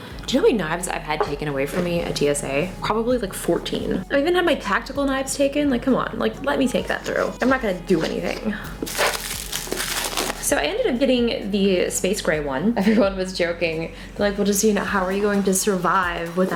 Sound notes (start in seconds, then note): 9.8 sighs